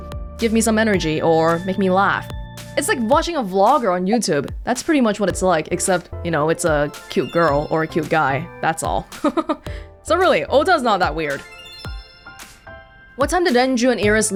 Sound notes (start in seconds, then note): 9.0 chuckles